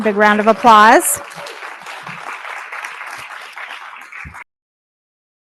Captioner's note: audience cheering